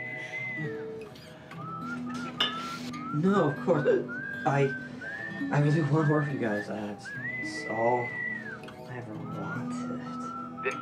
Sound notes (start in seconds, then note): 3.8 hiccup